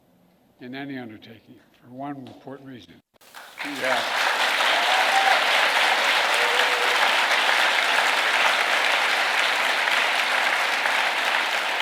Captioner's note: applause